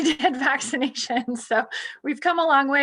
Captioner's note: chuckling